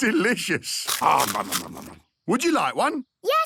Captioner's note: crunching